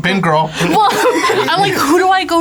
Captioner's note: laughs